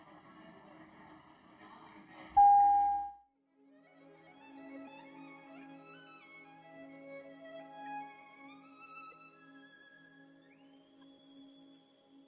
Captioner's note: sound of bell